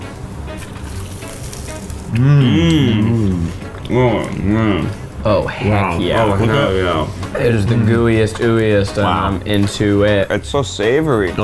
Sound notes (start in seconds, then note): 0.1 whimsical music; 4.0 all moaning